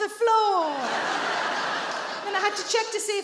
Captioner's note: audience laughing